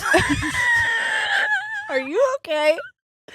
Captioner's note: laughing